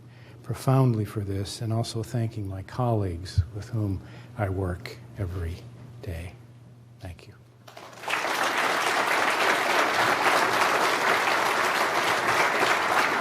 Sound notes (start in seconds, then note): 7.6 applause